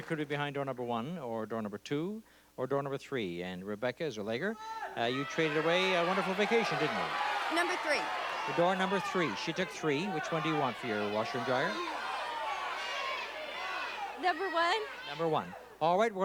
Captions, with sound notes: It could be behind door number one or door number two or door number three, and Rebecca Zueliger, you traded away a wonderful vacation, didn't you? -Number three. -Door number three. She took three. Which one do you want for your washer and dryer? (chatter) -Number one. -Number one. All right.